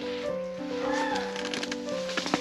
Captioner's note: animal noise